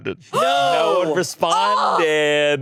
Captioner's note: gasps